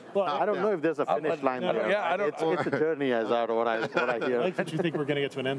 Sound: group speaking together

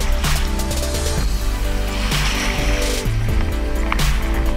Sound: water splashing

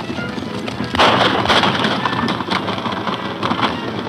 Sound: guns firing

